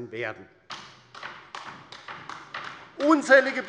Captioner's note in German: Beifall bei der LINKEN